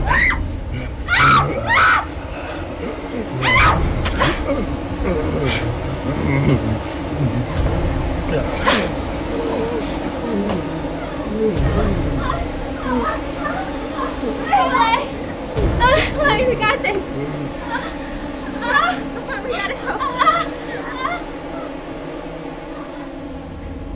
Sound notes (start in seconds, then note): 0.3 killer grunting; 1.1 Heather screaming; 10.2 killer moaning; 21.5 Morgan groaning